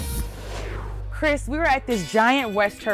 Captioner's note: graphics whooshing